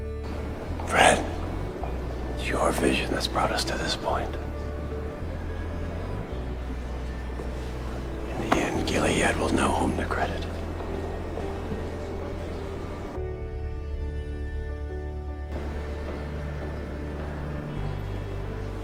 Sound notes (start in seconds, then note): 0.9 voiceover